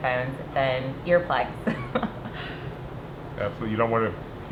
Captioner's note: laughs